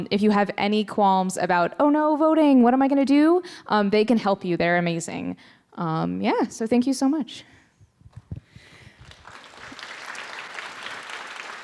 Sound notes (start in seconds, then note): 8.6 applause